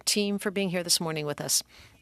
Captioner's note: speaking French